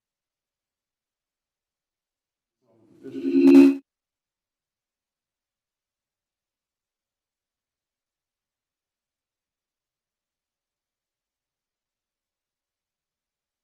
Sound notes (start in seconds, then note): 3.0 video call rings loudly